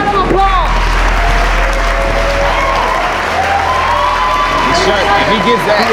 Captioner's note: spectators applauding